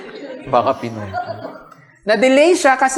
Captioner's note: laughter